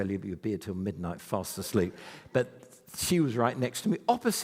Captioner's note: none